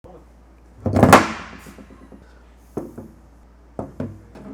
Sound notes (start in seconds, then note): 0.2 gun thuds on table